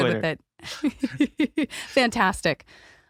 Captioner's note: laughing